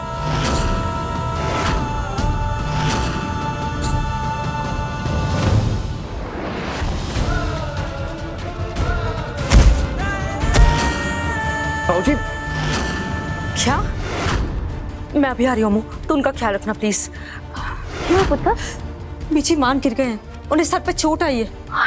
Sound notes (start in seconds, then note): 1.2 emotional music; 10.5 thudding sound